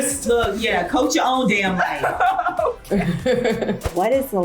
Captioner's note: laughs